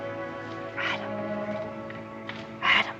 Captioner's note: whispering